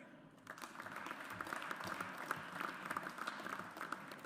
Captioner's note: audience applauds